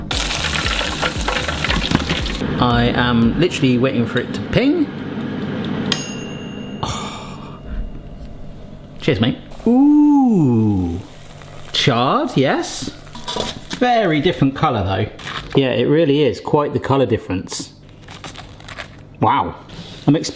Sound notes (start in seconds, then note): 0.0 oil sizzling; 5.9 air fryer pings; 17.9 chicken crunching